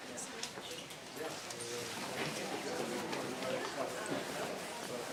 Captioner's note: people chattering softly